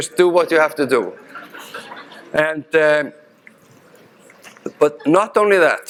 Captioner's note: audience laughing